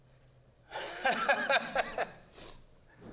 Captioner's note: laughing